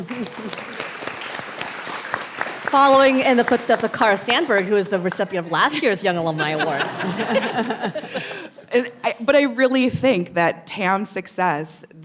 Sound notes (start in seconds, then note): 0.0 people chuckling and clapping; 5.4 people laughing